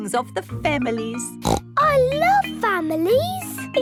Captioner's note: snorts